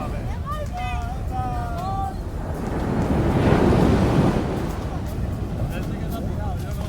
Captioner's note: children playing